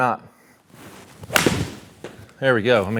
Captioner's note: golf club smacking